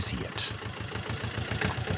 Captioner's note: motor whirring